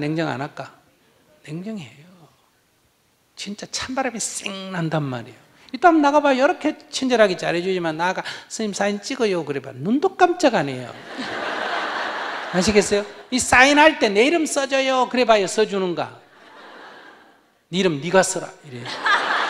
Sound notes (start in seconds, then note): 11.0 audience Laughter